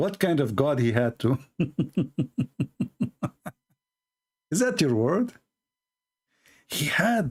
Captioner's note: Ketawa